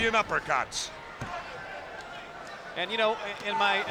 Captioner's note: spectators chattering